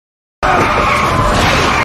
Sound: tires screeching

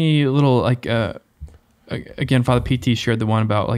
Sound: none

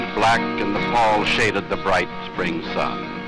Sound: none

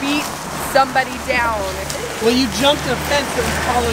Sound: laughing

